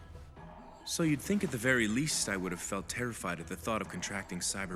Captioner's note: over comms